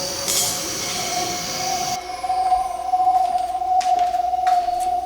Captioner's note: kissing